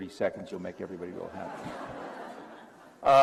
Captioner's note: laughter